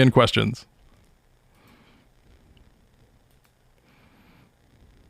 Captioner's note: mouse clicking